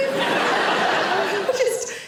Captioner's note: audience laughing